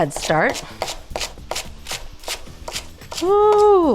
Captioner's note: vegetables crunching